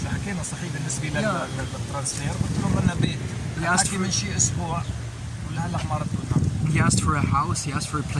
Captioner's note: speaking Arabic